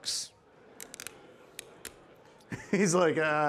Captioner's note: object clanking